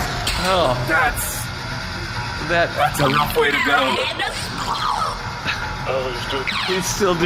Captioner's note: death rattle